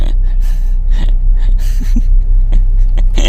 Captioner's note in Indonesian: terengah-engah